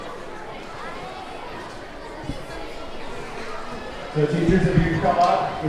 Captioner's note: audience chattering begins